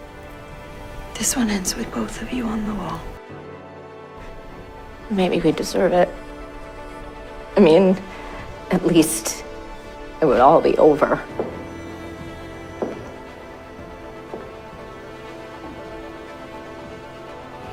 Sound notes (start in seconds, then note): 1.3 voiceover